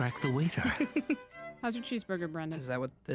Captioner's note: laughing